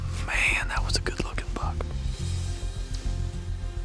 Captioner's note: whispering